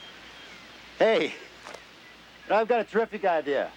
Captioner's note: chuckling